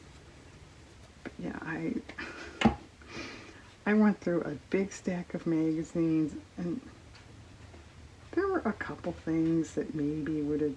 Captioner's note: laughs